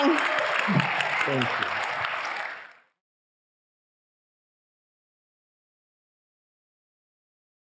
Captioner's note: audience applauding